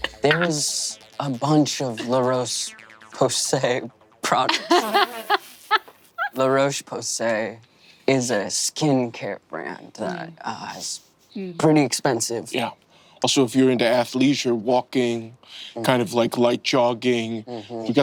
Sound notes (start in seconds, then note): 4.4 Emily and Zac laughing